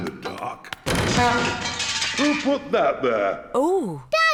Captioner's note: crashing